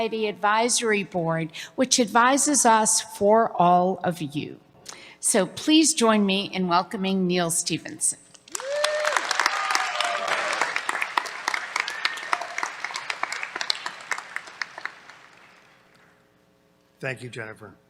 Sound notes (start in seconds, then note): 8.5 cheers, applause